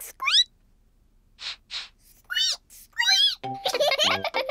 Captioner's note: sniffs and squeaks; both sniff and squeak; giggling